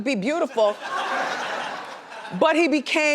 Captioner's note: laughs